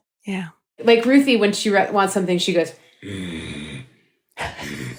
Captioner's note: grunts